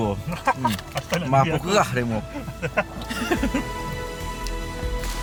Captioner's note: laugh